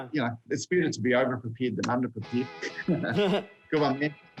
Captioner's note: both chuckle